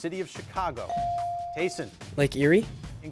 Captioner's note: bell chiming